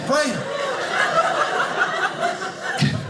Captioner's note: audience laughing